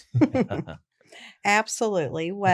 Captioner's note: laughs